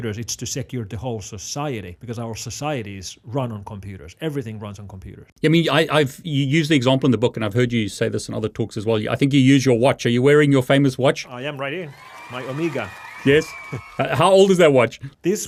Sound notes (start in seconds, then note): 11.5 audience cheering